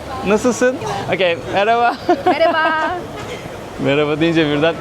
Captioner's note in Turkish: kahkaha